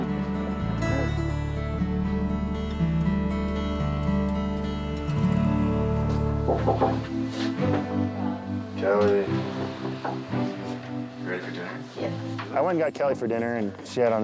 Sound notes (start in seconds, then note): 0.2 gentle romantic music continues; 6.5 fist knocks